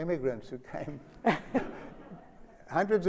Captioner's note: Sonia laughs